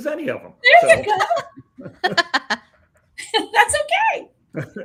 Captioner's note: all laughing